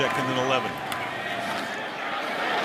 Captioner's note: whistle